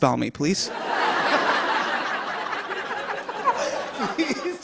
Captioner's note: laughter